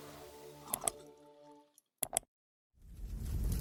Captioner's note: mouse Clicks Sounds; fire Crackling Sounds